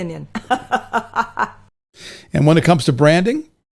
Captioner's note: laughing